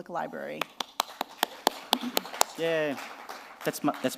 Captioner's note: applause